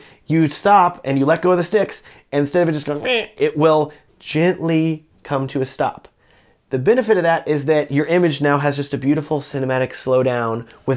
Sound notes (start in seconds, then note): 3.0 imitating duck quaking